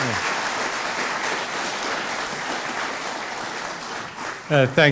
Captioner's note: applause